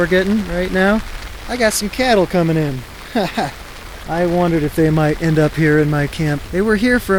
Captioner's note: laugh